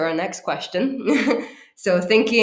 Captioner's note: laughs